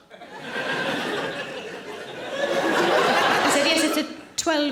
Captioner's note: audience laughing